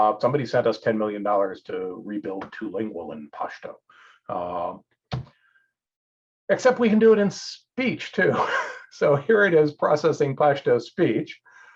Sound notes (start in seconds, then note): 8.2 laughs